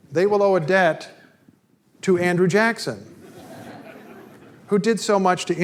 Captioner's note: audience laughter